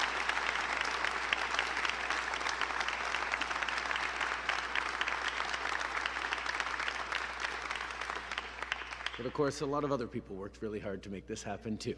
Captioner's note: applause